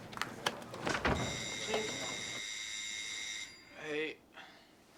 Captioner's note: computer bleeps; doorbell rings